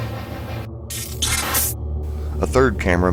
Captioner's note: electronic effect